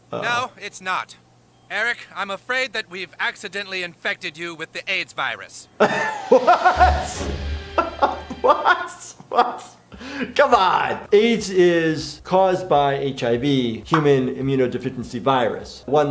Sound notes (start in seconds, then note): 5.8 laughter